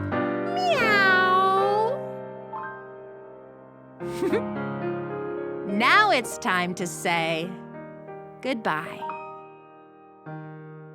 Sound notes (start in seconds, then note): 2.4 gentle piano music; 4.1 giggles